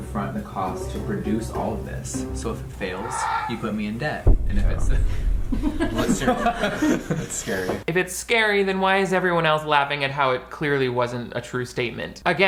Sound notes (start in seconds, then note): 5.5 laughing